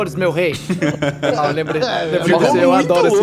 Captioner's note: laughs